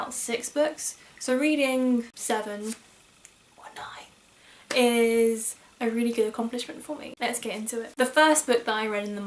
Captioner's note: whispers